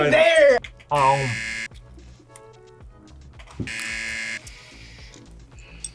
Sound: buzzer

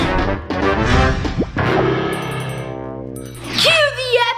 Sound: lively music; bell chiming

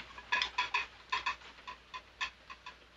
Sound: clanking of dishes

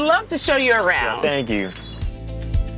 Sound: upbeat music; door creaks

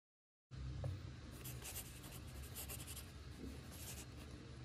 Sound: pencil Scribbling

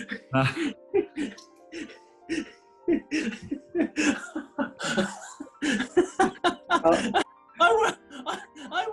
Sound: giggling intensifies; giggling

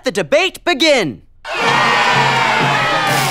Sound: loud cheering

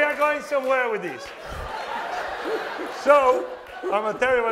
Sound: laughter

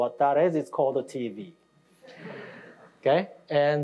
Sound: audience laughing

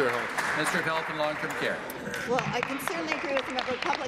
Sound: applause

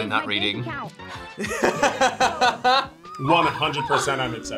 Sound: both laugh

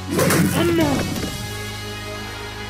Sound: beating

